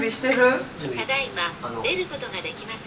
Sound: intercom

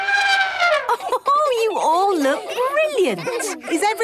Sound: trumpeting; Mummy Pig laughing

